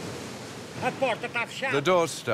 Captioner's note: speaking in foreign language